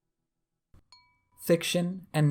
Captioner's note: chime sound